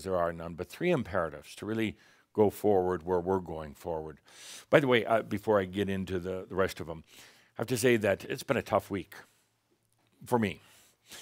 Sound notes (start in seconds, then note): none